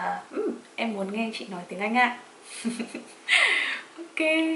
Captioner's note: giggle